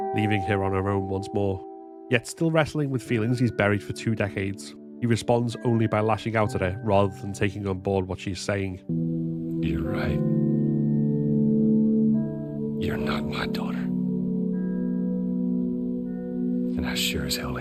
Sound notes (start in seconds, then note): 10.4 coldly